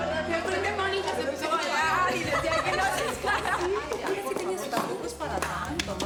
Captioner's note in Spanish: risas